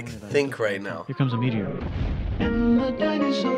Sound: explosion

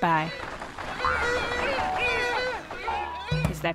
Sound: squeals of Jackalopes running past

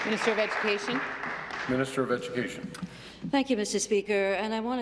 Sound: applause

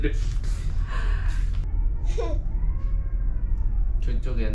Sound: another baby crying

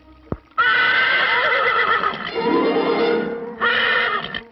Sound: horse neighing

